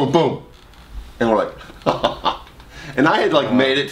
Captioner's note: laughs